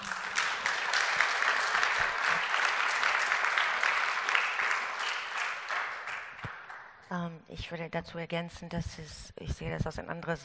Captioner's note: applause